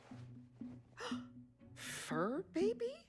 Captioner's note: gasping